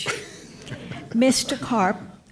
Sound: laughter

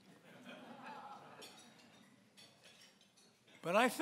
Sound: laughing

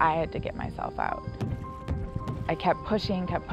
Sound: thumping

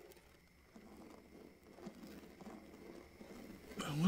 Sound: scraping

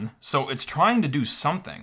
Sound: none

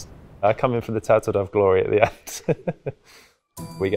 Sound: laughs

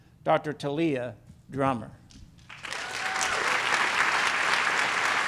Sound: applause

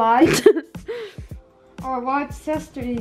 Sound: laughs

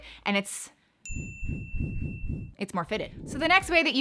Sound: bell softly chiming

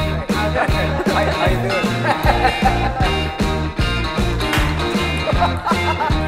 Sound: laughs; laugh

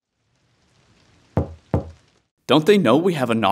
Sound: knock

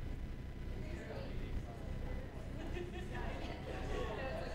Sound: side chatter

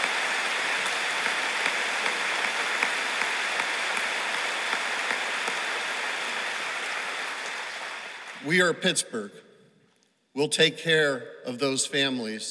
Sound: applause

